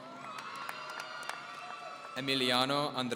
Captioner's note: audience cheering